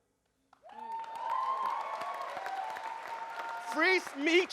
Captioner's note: audience cheers and applauds